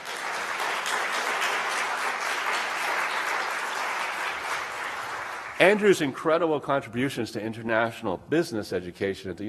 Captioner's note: applause